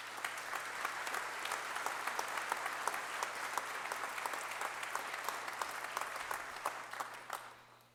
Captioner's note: applause